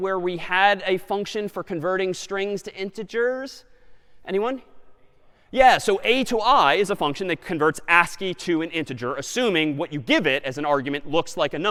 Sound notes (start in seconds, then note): none